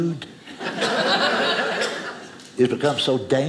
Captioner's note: audience laughing